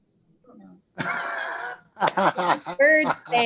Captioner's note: laughs